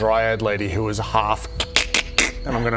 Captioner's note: kr-kk-krk-krrk